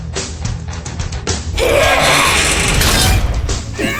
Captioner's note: straining, metal breaking; exclaims